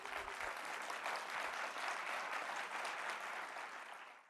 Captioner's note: audience clapping